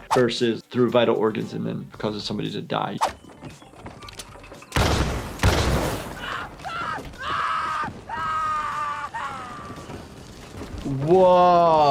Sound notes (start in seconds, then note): 4.7 gunshots cracking; 6.2 man screaming